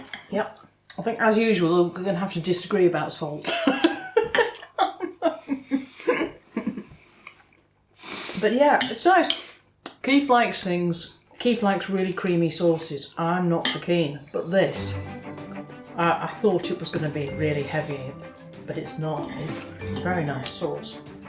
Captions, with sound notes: "Yep. I think as usual we're going to have to disagree about salt." [ LAUGHING ] "But yeah, it's nice. Keef likes things, Keef likes really creamy sauces I’m not so keen..." "but this I thought it was going to be really heavy, but it's not, it's a very nice sauce ."